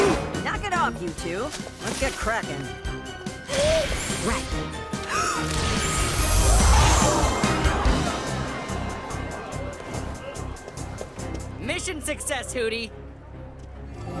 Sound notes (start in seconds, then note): 4.5 holds breath; 6.5 crowd gasps